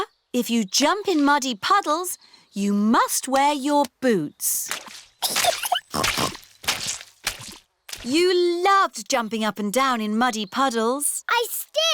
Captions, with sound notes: Peppa, if you jump in muddy puddles, you must wear your boots. (GIGGLES AND SNORTS) You loved jumping up and down in muddy puddles.